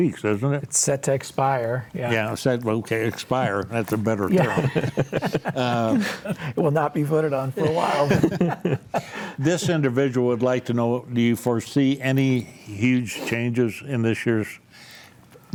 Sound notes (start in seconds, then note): 7.4 panelists laughing